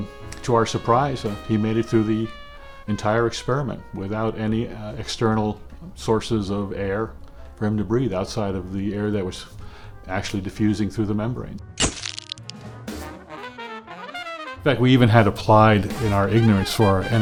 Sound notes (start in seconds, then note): 12.4 camera flash bulb